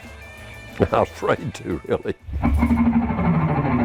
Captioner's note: chuckles; uptempo music